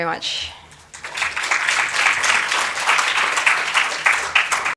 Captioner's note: applause